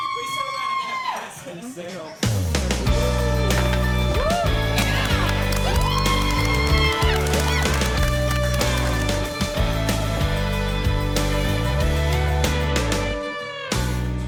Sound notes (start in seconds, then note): 0.0 girls cheer; 2.2 upbeat music; 6.1 girls cheer; 9.0 upbeat music